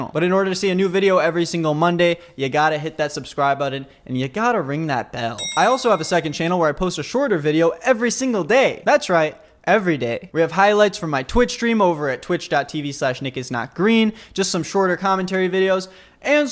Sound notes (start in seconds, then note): none